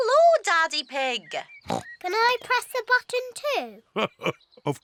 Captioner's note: oinks; laughs